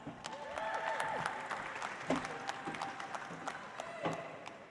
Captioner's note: audience applauds